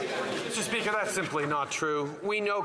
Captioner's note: applause